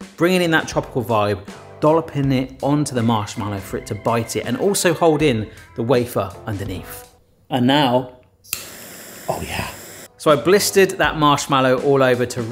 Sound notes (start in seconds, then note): 8.6 blow torch hisses